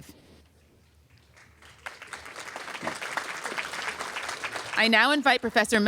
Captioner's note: applause